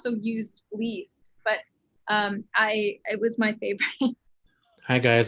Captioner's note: chuckles